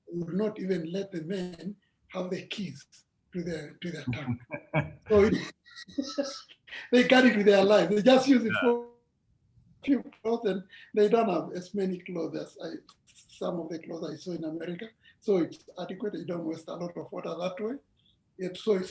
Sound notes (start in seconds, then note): 3.4 laughs